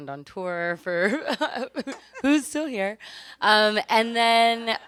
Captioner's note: laughs